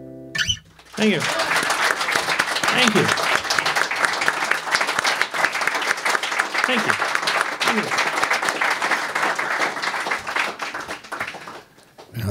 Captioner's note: applause